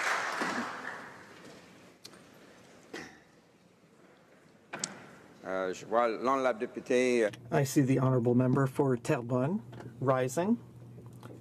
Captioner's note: applause